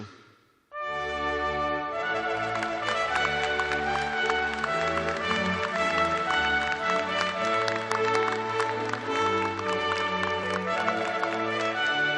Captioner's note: applause